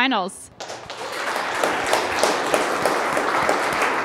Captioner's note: applauding